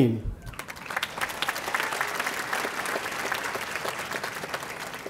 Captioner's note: audience applauding